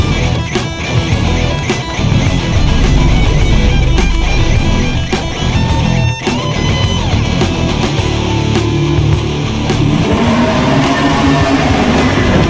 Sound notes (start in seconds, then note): 2.4 sword whooshes; 9.7 beast roars